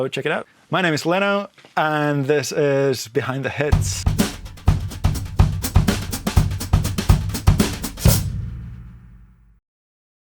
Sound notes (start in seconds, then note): 3.7 drums; 8.2 logo thuds